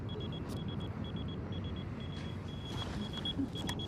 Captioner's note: phone beeping